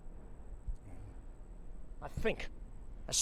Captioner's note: Becker grunts